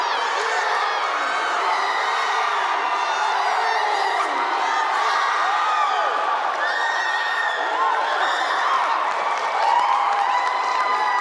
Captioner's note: applause